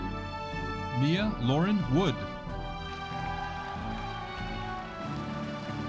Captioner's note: audience cheering